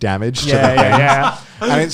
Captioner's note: laughing